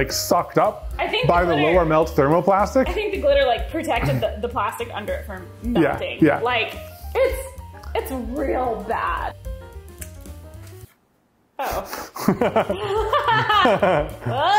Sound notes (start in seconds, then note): 10.1 foil crinkles; 11.6 both laugh